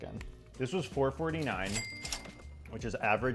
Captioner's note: register ka-ching